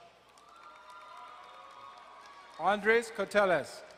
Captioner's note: crowd cheering and applauding